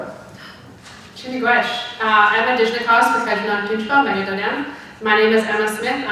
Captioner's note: speaking foreign language